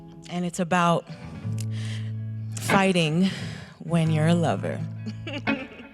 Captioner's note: laughs